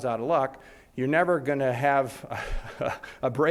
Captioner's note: laughs